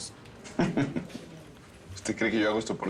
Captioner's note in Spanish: Risas